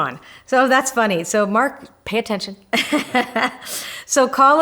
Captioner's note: laughs